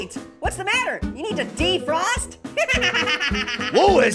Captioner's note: laughs